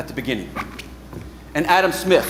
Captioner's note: boots squeaking